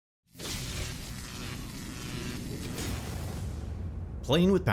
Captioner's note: electricity buzzing